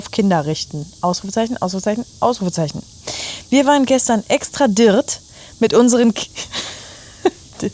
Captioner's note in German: gelächter